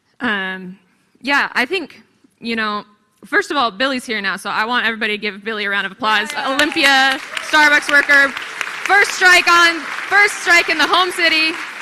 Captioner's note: applause